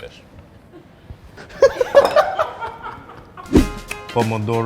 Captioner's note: laughing